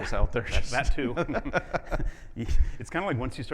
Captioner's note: laughing